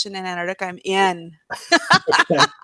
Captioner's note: laughs